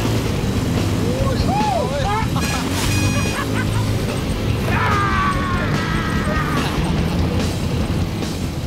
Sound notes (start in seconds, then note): 4.6 exclaims